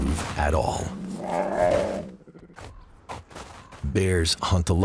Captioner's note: bears growl; paws shuffling in snow